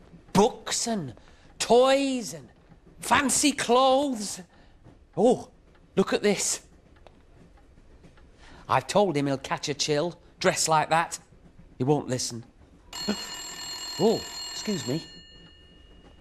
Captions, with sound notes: Books and toys and fancy clothes! Oooh, look at this! I've told him he'll catch a chill dressed like that! He won't listen! [TELEPHONE RINGS] Oh. Excuse me.